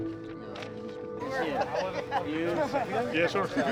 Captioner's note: indistinct chatter